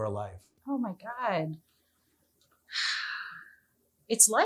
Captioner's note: sighs